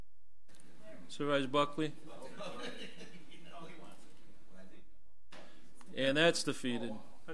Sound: overlapping chattering

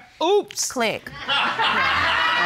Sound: audience laughing

